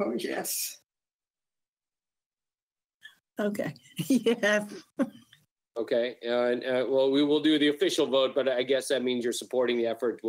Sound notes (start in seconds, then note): 4.2 laughs